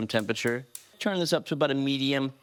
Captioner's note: stove knob clicks